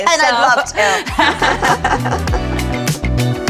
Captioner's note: both laughs; upbeat music